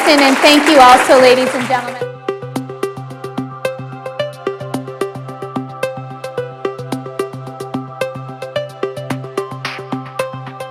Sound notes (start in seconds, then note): 2.0 applause